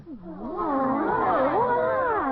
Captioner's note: moans of sorrow